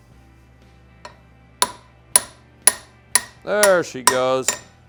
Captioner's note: hammer tapping